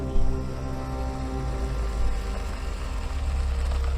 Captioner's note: gasps weaken, fade; engine rumbles, quietly; music fades